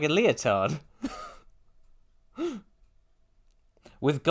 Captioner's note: sensible chuckle